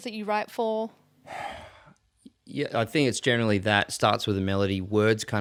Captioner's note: sighs